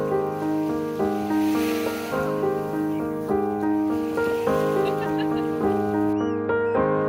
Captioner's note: waves crashing, laughter, general beach sounds